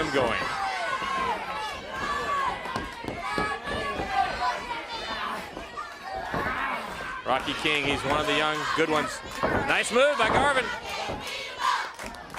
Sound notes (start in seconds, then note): 0.0 crowd chatter; 1.6 crowd chatter